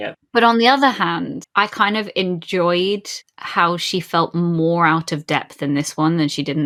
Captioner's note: none